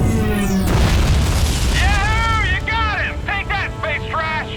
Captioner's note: explosion